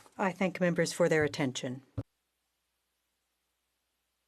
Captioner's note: speaking French